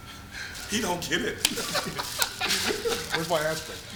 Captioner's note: group laughing